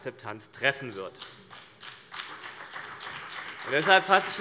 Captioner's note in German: Beifall CDU und BÜNDNIS 90/DIE GRÜNEN